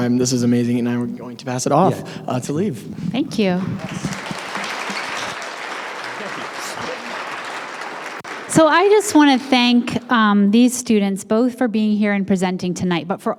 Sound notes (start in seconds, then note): 3.6 applause